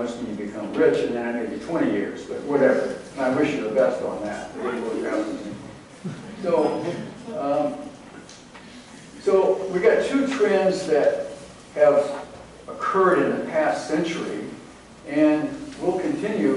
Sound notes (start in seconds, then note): 5.1 laughter